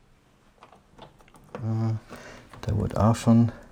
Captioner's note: mumbling